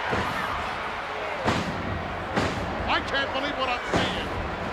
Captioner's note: ground slamming